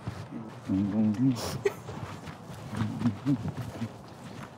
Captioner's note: humming